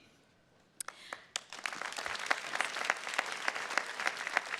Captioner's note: attendees clapping